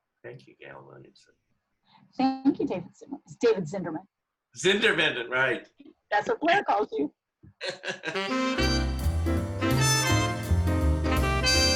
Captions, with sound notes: Thank you Gail Williamson. - Thank you David Zimmerman, David Zindermand. - Zindermand, right! - That's what Blair calls you. (laughs) (upbeat jazz music)